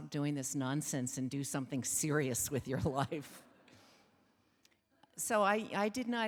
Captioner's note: chuckles